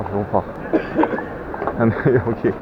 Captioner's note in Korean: 어디선가 들리는 가래 끓는 기침소리